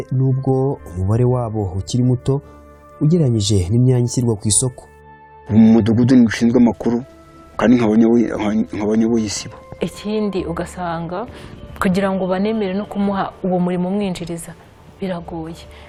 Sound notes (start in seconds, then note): 5.5 speaking in Kinyarwanda